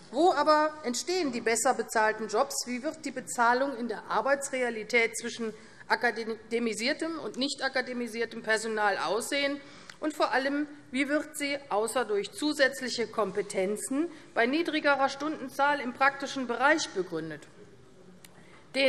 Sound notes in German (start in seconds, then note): none